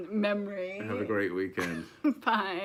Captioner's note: laughs